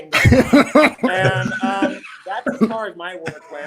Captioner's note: participants laughing